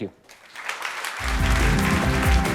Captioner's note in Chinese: 掌声